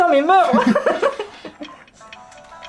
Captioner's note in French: Rires